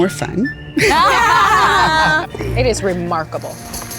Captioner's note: group laughs